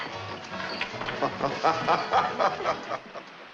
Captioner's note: guffaws